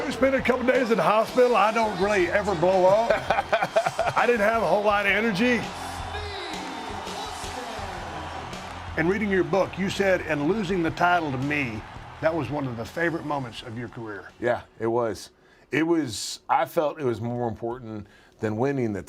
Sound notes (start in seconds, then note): 2.8 laugh